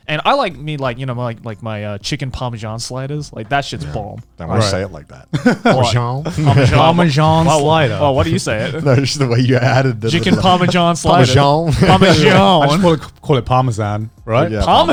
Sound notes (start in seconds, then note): 5.8 chuckling